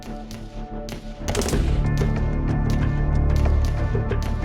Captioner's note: gun firing; dramatic music